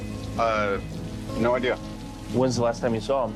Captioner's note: rain patters